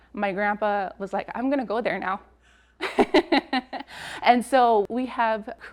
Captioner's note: laughs